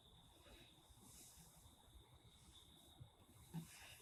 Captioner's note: letter sliding across desk; soft tap